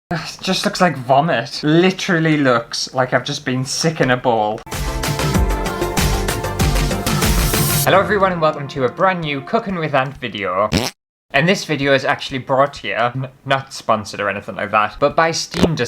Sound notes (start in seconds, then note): 4.6 intro Music; 10.7 fart